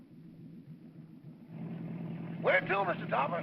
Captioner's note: engine idling; car rumbles